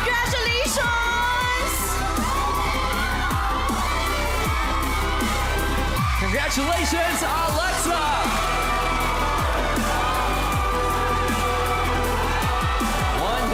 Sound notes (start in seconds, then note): 2.4 cheering, applauding; 8.9 cheering, applauding